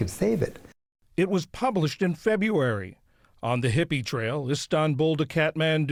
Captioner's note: voice-over